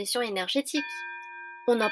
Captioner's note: bell rings à end of class!